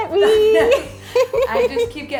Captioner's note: laughing